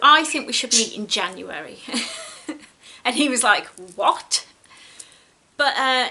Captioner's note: giggles